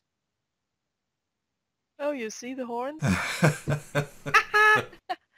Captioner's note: both laughing